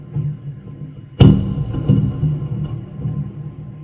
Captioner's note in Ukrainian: вибух